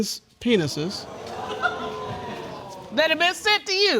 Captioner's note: audience gasping